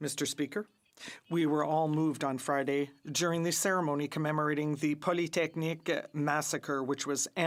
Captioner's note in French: voix de l'interprète